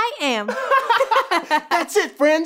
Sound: laughing

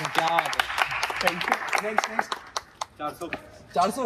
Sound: clapping

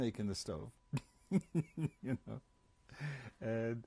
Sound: laughs

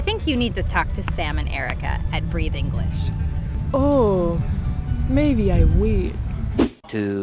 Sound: sounding inspired

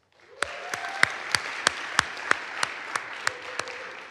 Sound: audience applauds

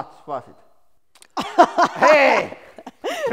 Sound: laughs

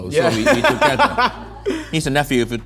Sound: laughing

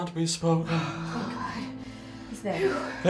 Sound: sigh in relief

